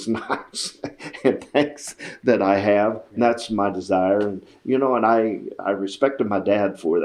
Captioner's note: laughs